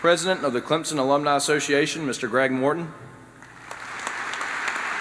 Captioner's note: applause